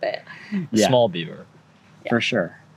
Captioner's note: laughter